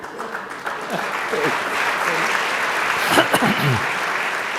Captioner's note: audience applauds